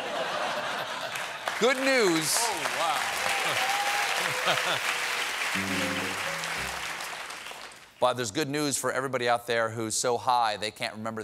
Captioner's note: laughter